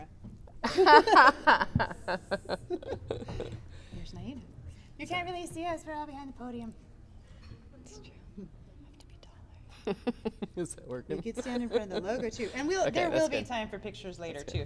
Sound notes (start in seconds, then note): 0.6 giggles; 3.8 indistinct chatter; 9.7 giggles